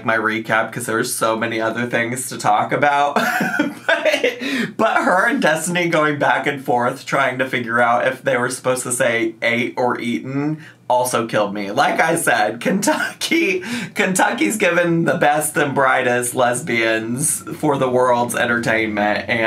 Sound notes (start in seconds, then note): 3.2 laughs